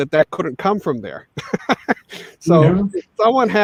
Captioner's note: laughing